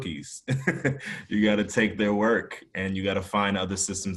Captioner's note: laugh